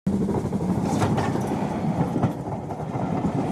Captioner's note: locomotive thundering past